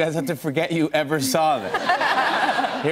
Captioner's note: laughter